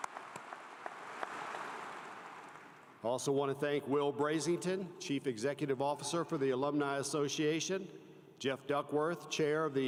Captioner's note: applause